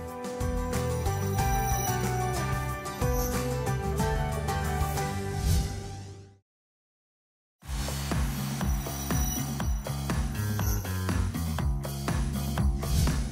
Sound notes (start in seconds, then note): 5.2 whoosh